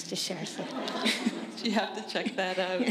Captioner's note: laughter